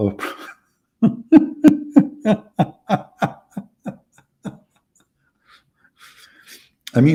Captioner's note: Ketawa